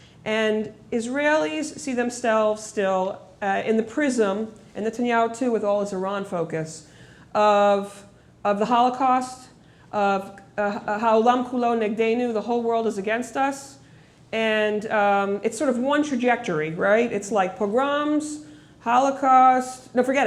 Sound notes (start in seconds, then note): 10.2 speaking hebrew